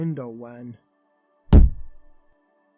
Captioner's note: thud